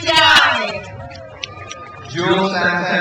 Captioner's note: crowd cheers